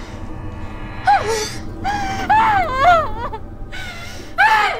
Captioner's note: screaming